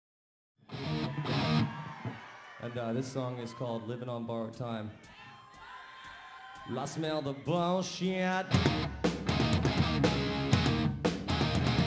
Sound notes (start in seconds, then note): 0.9 crowd cheering; 8.4 upbeat rock music